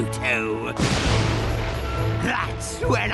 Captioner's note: thunderclap